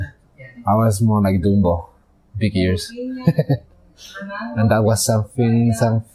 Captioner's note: laughing